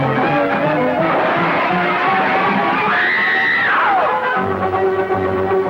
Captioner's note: crashing; screaming